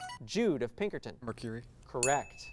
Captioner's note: ding